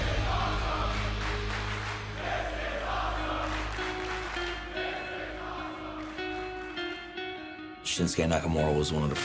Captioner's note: fans chanting